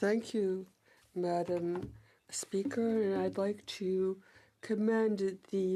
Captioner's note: speaking French